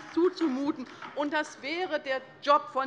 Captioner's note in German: Beifall bei der LINKEN